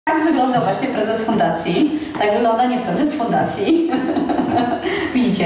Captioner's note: laughs